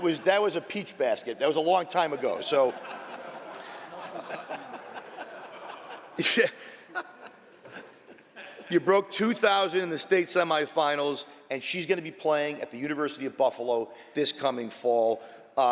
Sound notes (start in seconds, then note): 2.4 laughter